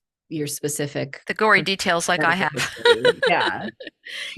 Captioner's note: laughs